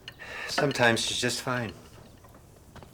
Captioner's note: sighs